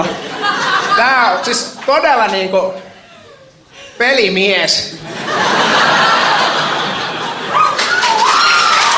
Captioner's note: laughter; laughter, applauding